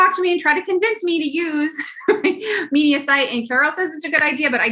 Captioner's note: laugh